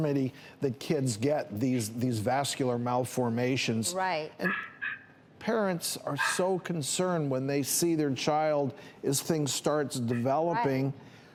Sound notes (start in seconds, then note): 4.4 dog barking